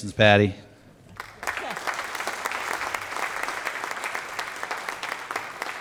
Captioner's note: applause